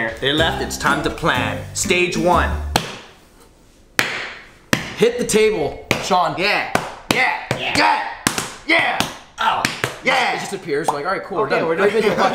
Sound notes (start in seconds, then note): 2.2 bangs the table